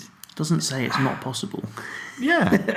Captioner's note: chuckles